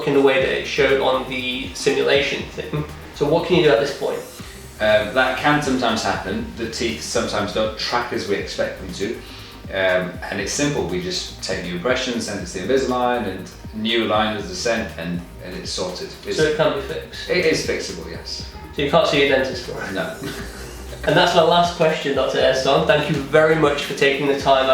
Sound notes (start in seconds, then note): 19.7 laughter